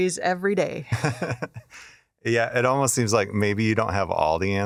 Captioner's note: laughs